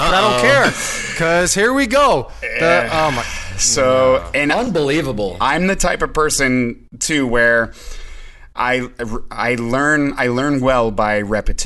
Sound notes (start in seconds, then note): 2.4 groan